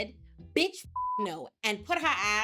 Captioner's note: beep